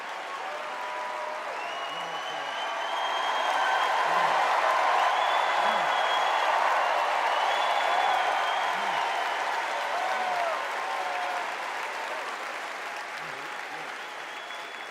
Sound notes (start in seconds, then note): 0.0 applause; 6.8 cheers and applause